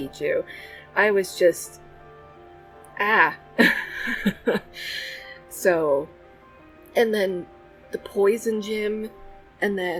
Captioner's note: laughs